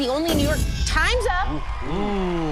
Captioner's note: whoosh